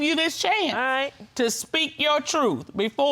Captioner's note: none